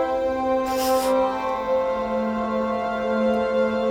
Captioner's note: sniffles